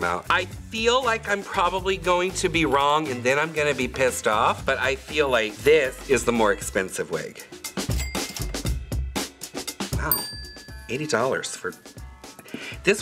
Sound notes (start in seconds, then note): 7.9 cash register dings; 10.0 bell dings